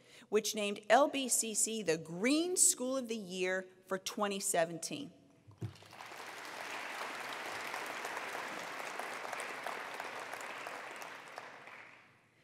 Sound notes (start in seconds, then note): 5.6 attendees applauding